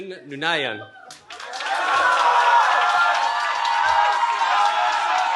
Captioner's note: cheering